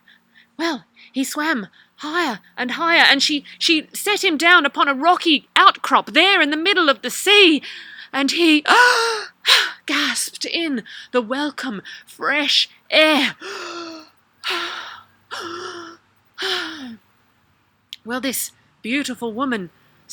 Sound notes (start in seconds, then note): 9.0 gasping; 15.8 breath